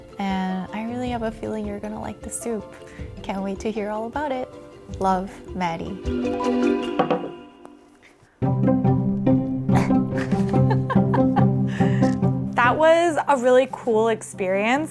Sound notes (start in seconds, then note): 8.3 cheerful music; 9.7 chuckling happily